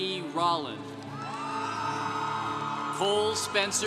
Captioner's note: congregation cheering